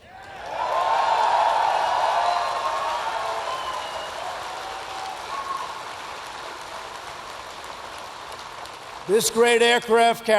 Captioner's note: applause